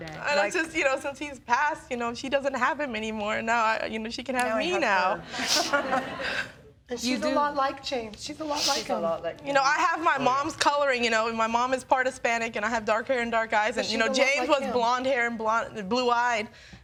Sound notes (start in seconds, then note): 5.2 laughs